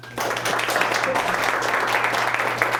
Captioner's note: applause